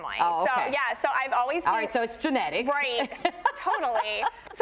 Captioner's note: laughs